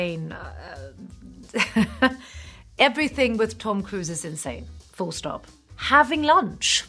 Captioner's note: laughs